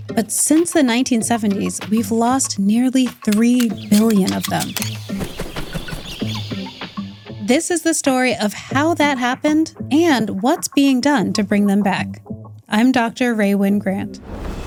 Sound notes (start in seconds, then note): 5.4 birds chirping; 5.4 wings fluttering; 14.2 screen whooshes; 14.4 upbeat music